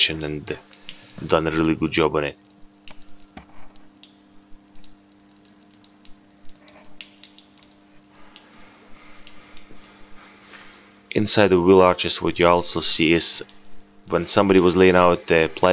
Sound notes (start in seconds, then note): 3.2 water dropping on the floor sound